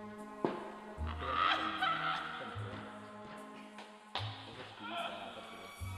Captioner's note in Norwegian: Latter og snakking